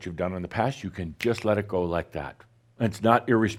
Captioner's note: snap!